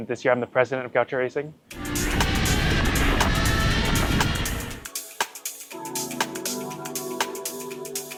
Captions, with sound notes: and this year I'm the president of Gaucho Racing. (engine revving) (upbeat music)